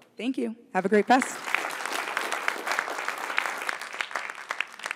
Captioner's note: applause